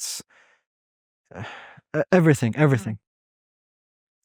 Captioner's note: sighs